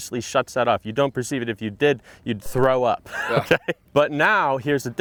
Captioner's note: laughs